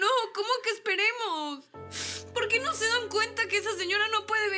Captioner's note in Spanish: Sollozos